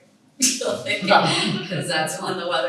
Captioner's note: laughs